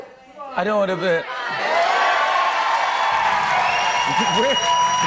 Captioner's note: cheers and applause